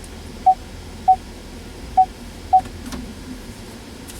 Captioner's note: rear Parking Sensor Beep